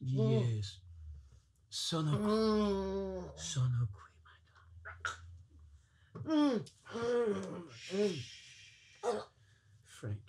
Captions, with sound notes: (speaks foreign phrase) (Franky groans) Franky, Mamma.